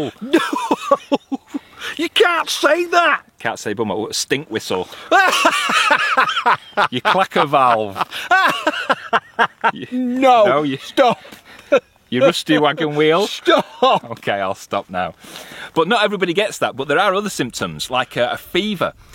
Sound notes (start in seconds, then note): 0.0 laughing; 5.0 laughing loudly